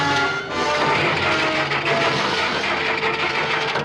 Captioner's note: engine cranking; suspenseful music